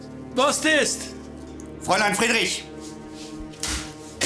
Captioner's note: soldier speaking German; Siegmund speaking German